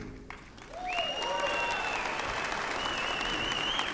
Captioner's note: applause